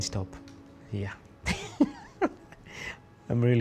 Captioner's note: laughs